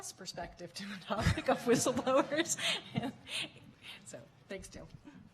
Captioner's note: laughing